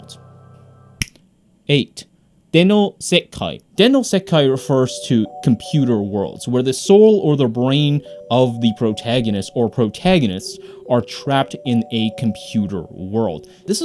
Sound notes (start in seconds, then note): 1.0 fingers snap